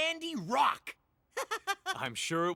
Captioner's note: chuckles